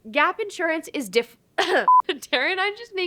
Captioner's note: cough